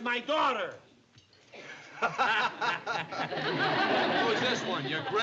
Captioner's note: laughing